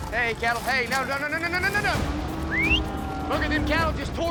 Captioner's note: whistles